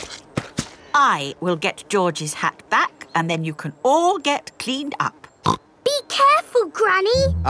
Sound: snorts

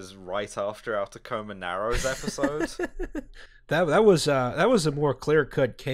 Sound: laughter

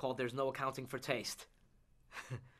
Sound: chuckles

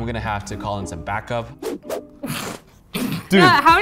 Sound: air whooshing

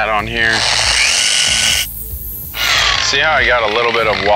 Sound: machine whirring

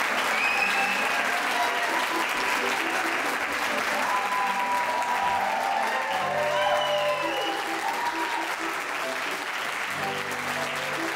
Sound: audience applauds

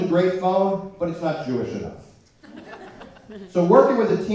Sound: laughter

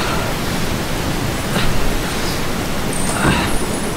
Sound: magical sound

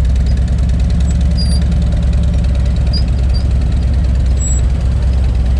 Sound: motorcycle brakes squealing; motorcycle engine droning

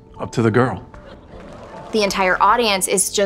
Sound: audience applauding

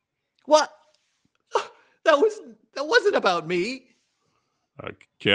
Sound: fighting back tears

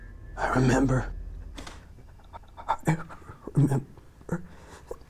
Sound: Rick sobbing

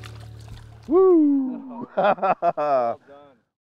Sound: laughs

